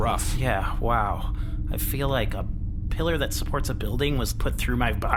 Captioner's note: sighs